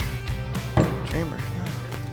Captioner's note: murmurs